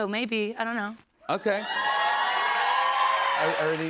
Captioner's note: cheers and applause